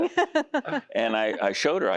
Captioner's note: laughing